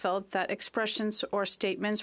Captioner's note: speaking French